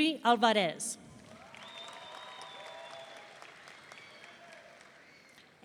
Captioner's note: audience cheering